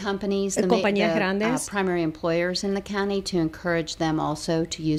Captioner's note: Hablando ingl\s